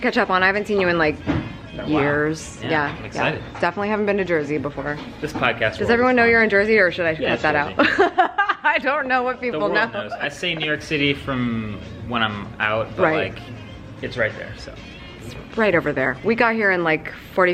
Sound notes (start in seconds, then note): 7.8 laughs